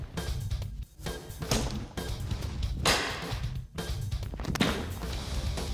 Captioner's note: chopping sound